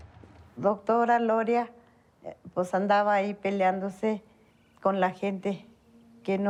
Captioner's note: in Spanish